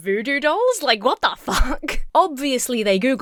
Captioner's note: laughs